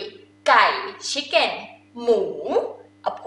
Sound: talking in foreign language

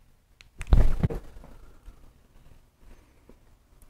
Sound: click

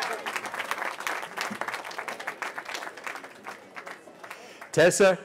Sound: cheering

